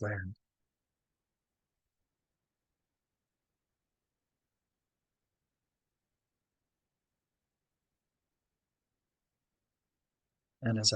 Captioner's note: pause